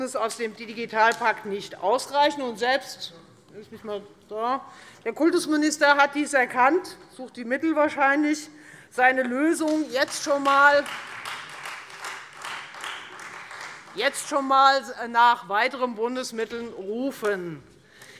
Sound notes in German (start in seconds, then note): 9.6 Beifall Freie Demokraten